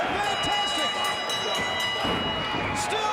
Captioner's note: bell dinging